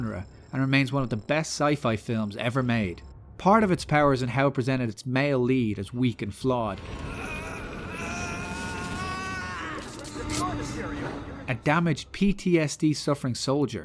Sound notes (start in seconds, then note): 9.8 shotgun cocking